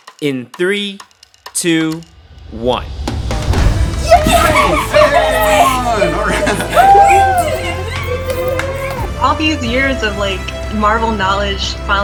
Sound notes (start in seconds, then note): 3.8 everyone cheers